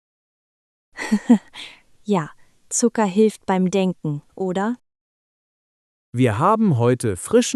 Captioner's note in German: laughs